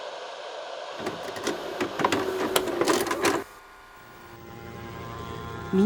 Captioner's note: dramatic VCR noises